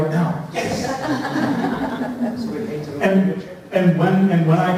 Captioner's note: laughter